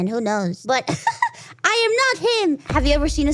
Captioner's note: laughs